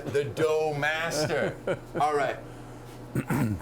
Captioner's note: chuckling